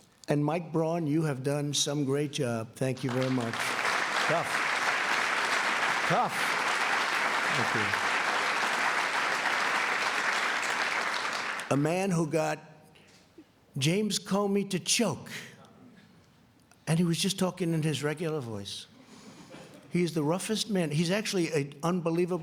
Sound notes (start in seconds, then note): 9.9 applause